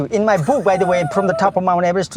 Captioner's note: laughs